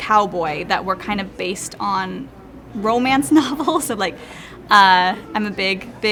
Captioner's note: laughs